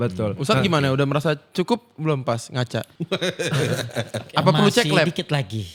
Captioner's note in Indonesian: tertawa